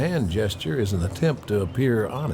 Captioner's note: bells chiming